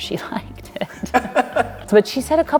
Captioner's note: laughing